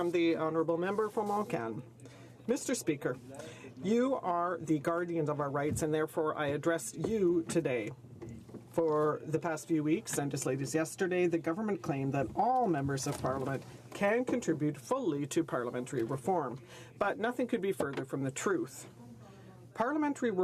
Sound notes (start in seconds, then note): 5.9 speaking French